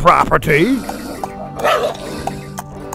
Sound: birds chirping; hoof steps falling; dog growling

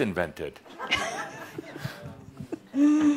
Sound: she giggles

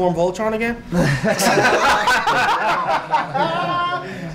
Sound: laughing

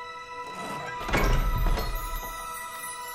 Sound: gate opens

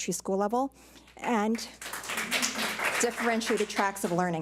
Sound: public applauding

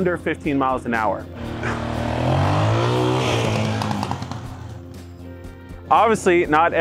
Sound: engine revs obnoxiously

